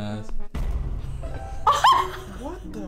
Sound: laughs in shock

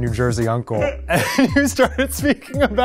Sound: laughing

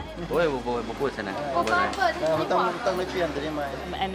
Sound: man speaks local language

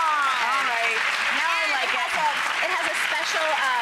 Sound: audience applauds

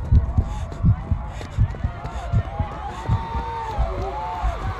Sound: cheers from the crowd

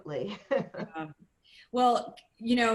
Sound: laughter

